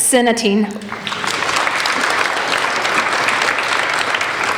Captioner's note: applauding